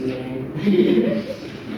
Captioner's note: laughter